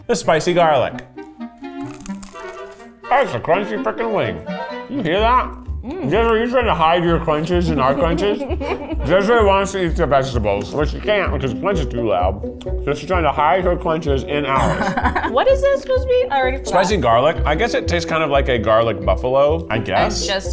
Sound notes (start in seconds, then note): 1.9 quirky music; 7.8 laughs